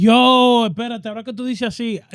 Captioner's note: speaking In Foreign Language